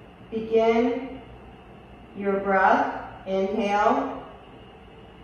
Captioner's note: none